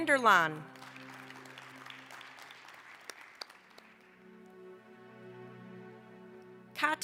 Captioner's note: applause